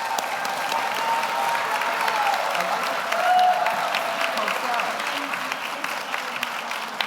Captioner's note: audience cheers; audience applauds